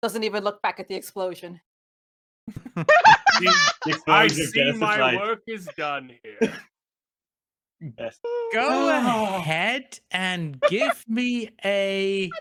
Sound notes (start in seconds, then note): 2.5 laughing